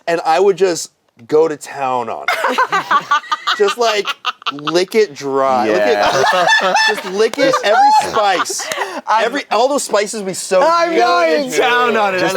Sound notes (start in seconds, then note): 2.3 laugh; 5.5 laughs